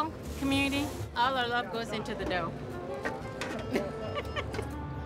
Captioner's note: laughs